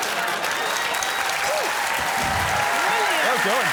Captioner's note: cheers and applause